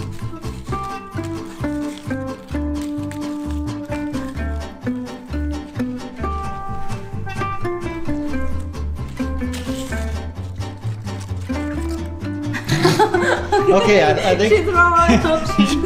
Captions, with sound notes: (upbeat music) (laughing) - Okay, I think... - She dropped one option